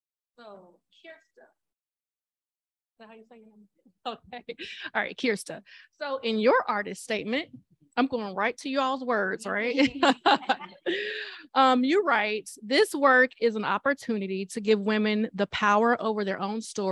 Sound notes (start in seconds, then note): 9.7 laughter